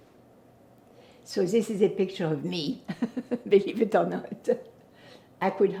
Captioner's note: laughing